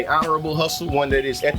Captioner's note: birds Chirping